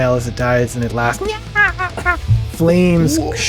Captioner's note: high pitched laughing